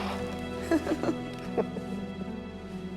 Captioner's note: both laughing